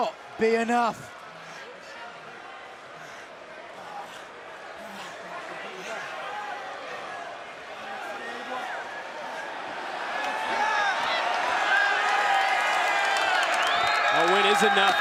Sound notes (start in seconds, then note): 0.4 crowd chatter; 11.3 crowd cheering